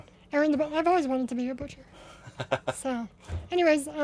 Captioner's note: laughs